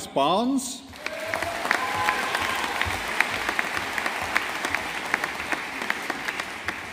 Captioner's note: audience applauding